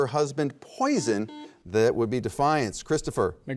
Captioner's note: buzzer beeps